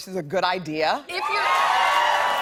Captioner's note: cheers and applause